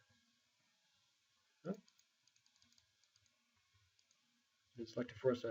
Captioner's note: mouse clicking